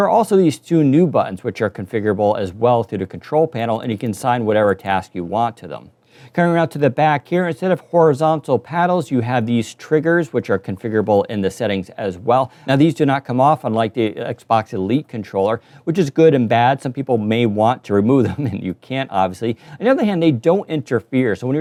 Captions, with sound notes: There are also these two new buttons which are also configurable as well through the control panel and you can assign whatever task to them. Turn around to the back here, instead of horizontal paddles you have these triggers which are configurable in the settings as well. Now these do not come off, unlike Xbox Elite controller, which is good and bad. Some people may want to remove them (laughs) and you can't, obviously. On the other hand, they don't interfere.